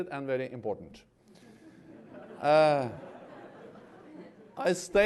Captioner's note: laughter